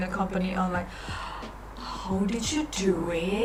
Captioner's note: gasppppp